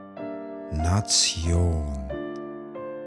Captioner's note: german